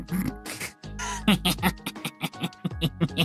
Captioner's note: laughing